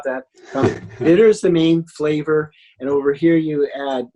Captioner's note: laughs